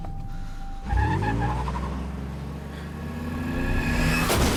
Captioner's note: tires screeching